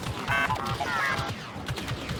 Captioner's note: beeps